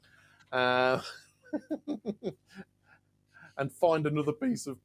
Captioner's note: laughing